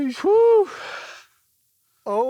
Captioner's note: sighs